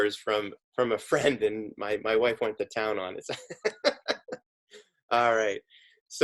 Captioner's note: laughs